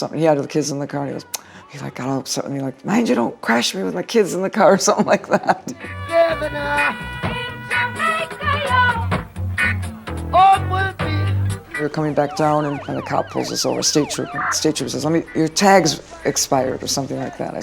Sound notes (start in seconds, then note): 5.0 laughs